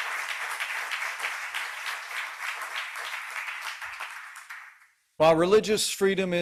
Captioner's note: applause